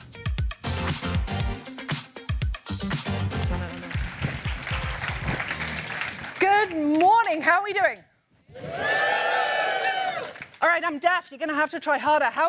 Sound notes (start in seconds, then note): 8.5 cheers